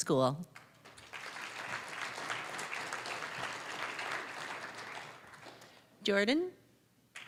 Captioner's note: applause